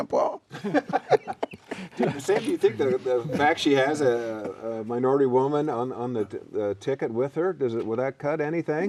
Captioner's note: laughter